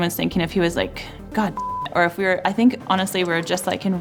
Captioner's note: beeps